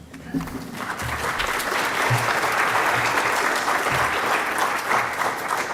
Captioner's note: audience clapping